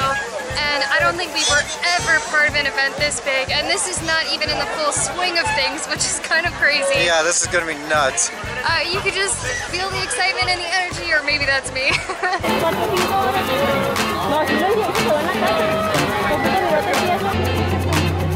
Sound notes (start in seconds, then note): 11.8 laughter